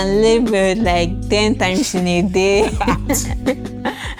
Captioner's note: laughs